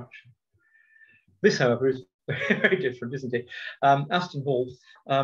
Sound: laughter

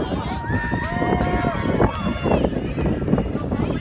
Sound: cheering

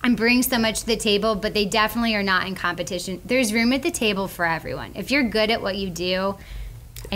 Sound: none

